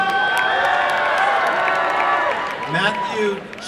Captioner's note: applause and cheering